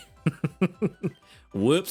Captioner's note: laughs